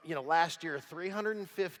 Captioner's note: none